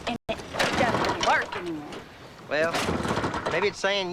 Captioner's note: motorcycle sputtering